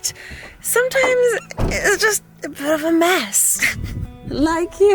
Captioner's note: laughs